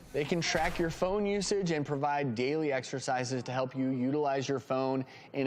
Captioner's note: none